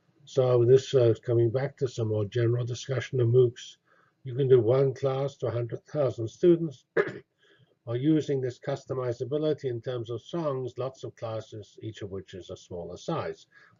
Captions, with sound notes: So this is coming back to some more general discussion on MOOCs. You can do one class to 100,000 students [COUGH] while using this customizability in terms of songs. Lots of classes, each of which is a smaller size.